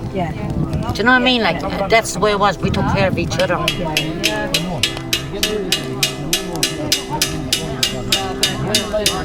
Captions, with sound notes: Do you know what I mean? Like that's the way it was. We took care of each other [Metal banging]